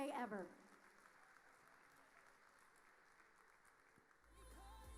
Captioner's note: audience applauding